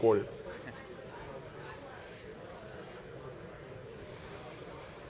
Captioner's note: audience chatting